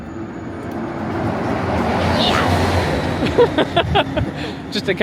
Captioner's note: monorail rushes; exclaims; laughs